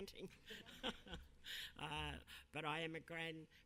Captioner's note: laughing